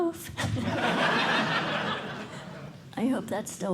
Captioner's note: laughter